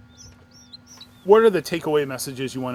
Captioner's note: chicks chirping